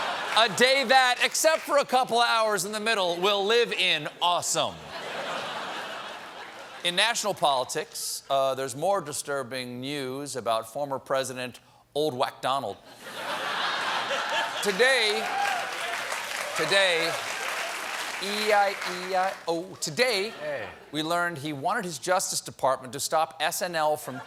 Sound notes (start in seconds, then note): 12.9 laughter; 14.0 applause